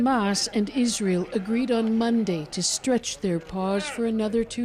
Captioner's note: crying